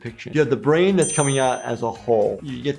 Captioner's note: none